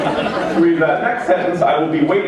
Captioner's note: laughter